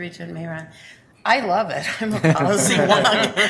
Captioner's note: chuckling